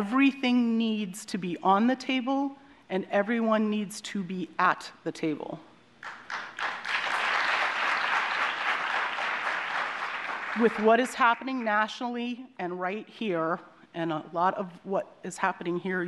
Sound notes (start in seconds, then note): 6.0 applause